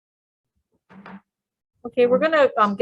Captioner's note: hammers the table